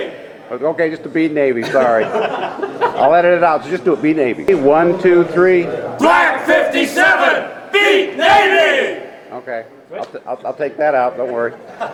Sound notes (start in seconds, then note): 1.6 group laughing